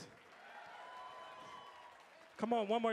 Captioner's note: audience applauding; audience cheering